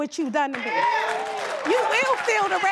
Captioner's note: audience cheering and applauding